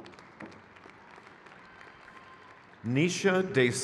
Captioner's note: crowd cheers